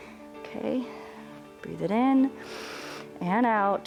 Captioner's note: exhales; inhales